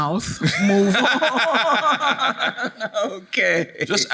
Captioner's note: audience laughing; laughing; laughs